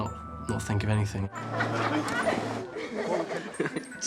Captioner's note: laughing